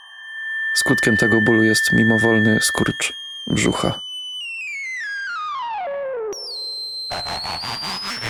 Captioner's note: rising digital screech